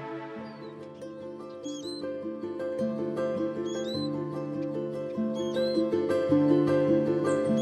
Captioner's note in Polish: w tle muzyka i głos ptaków - czyża